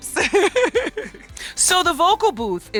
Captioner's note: laughs